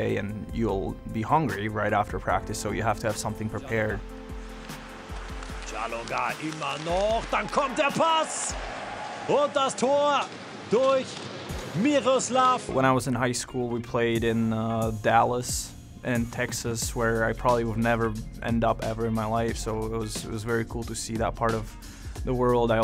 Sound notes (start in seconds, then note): 5.7 announcer speaks German